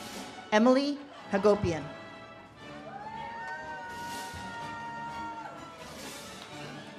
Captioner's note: audience cheers and claps